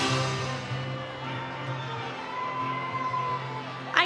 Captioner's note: attendees applaud; attendees cheering